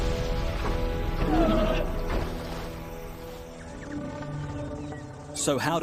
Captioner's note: insects chirping; dinosaur growls